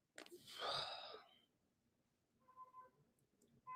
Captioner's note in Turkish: homurdanır